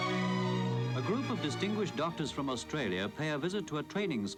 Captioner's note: archive voice-over